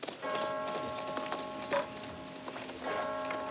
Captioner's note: CLOCK CHIMlNG